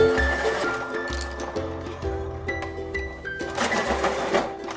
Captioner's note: pencil sharpening